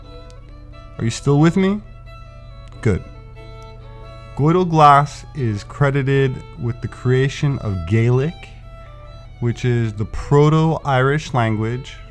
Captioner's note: Gaelic